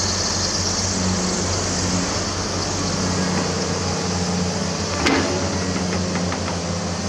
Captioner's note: engine Rev